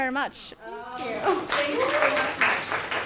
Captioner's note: audience applauds